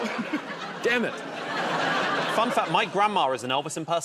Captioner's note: laughter